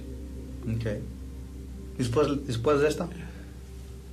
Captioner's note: conversing in Spanish